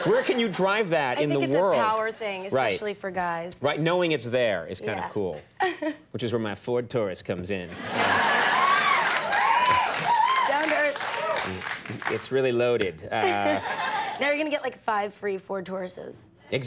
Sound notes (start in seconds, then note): 7.8 audience cheering; 13.1 audience laughing